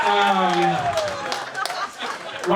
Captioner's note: audience laughing